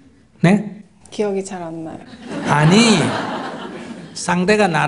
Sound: audience Laughter

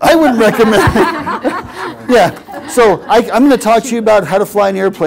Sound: laugh

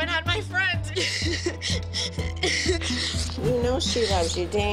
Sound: sobbing

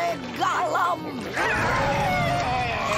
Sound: shrieking

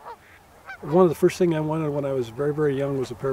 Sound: voiceover

